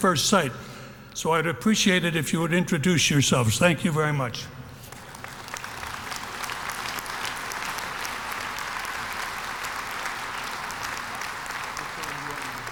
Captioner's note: applause